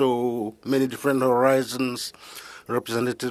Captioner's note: speaking French